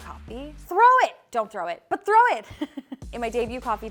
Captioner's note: chuckles